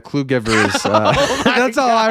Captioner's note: laughing